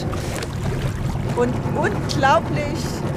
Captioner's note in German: Plätscherndes Wasser